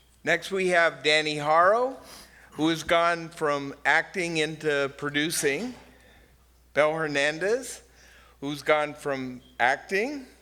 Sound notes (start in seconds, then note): none